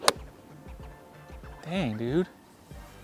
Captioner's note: thudding